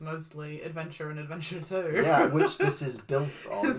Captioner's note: laughs